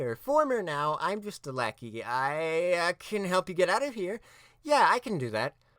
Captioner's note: none